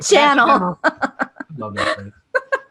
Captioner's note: laughter